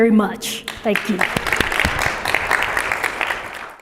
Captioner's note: applause